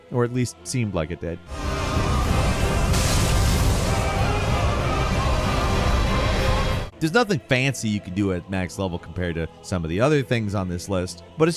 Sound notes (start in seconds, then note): 1.4 dramatic music; 1.5 lightning cracks